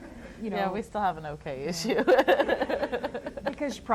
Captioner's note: laughs